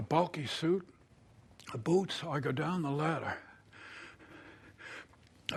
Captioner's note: breathing heavily